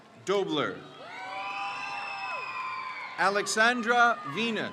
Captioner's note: crowd cheers